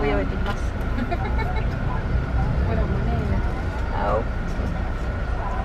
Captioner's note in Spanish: risas, es broma